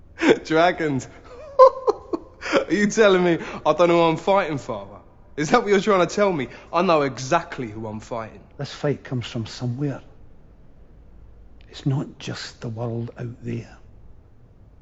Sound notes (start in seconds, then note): 0.0 laughing